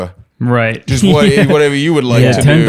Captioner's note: laughs